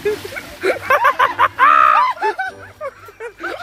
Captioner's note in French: rire sadique